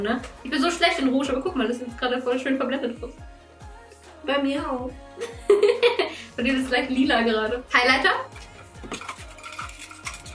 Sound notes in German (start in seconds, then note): 5.2 lacht